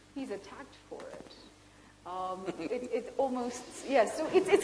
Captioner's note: Sadhguru laughs